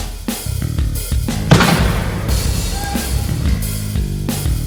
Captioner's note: gunshots